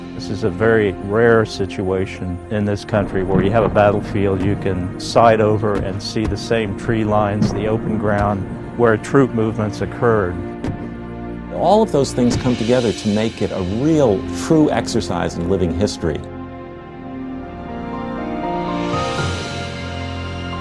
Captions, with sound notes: - [Male Voice] This is a very rare situation in this country where you have a battlefield, you can cite over and see the same tree lines, the open ground where troop movements occurred. - [Male Voice] All of those things come together to make it a real, true exercise in living history. (calm music)